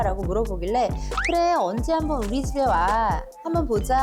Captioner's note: offhand remark sound effect